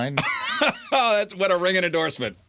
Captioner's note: laughing